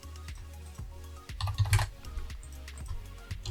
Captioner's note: typing noises